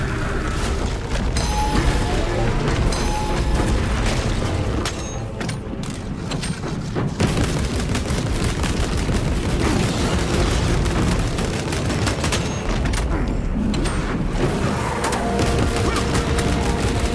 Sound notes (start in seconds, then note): 6.3 groaning and screaming